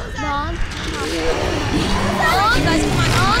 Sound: growling

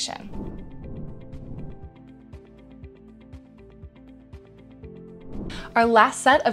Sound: gentle music; air whooshes

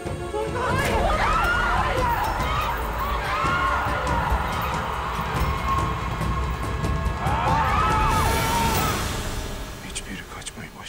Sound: Bağırma sesleri

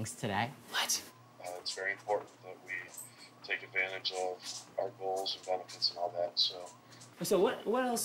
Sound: meeting chatter

